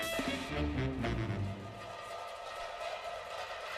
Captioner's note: metal object spins